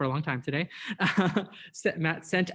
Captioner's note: laughing